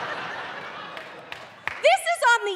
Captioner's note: audience laughing